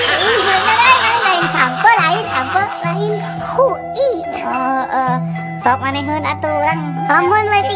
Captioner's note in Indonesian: tertawa